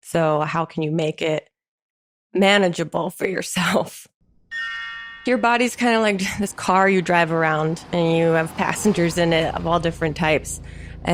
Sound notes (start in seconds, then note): 4.5 chimes sound effect